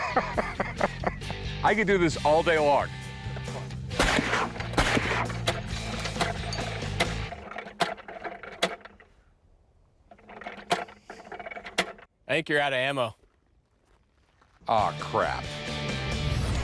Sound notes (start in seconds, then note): 4.9 bira clicking